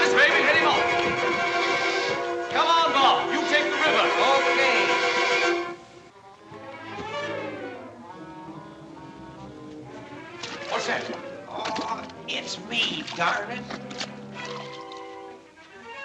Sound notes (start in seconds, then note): 10.3 splash